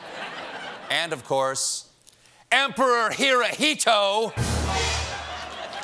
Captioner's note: laughter